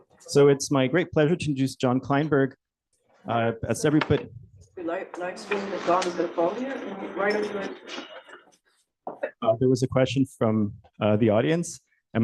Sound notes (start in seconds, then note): 3.3 background chatter